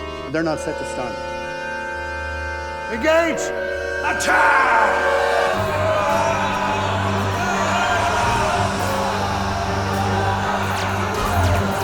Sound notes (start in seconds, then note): 6.2 phasers firing; 6.2 yelling